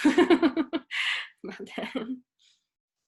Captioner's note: laughs